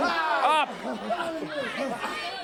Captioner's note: crowd chatter